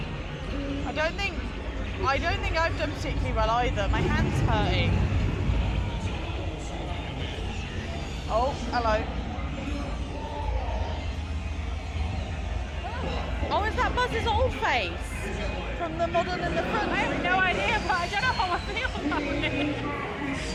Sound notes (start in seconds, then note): 9.2 Zurg groans and speaks; 20.3 Zurg groans and speaks French